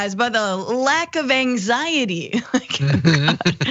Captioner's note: laugh